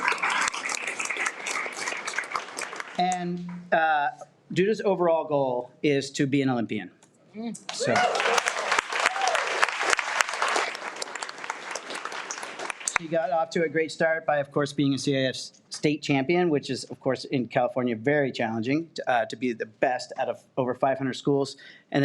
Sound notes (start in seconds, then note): 0.0 audience applauds; 7.7 audience cheers and applauds